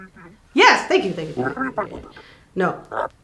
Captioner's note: grumbling